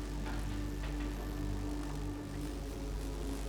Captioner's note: none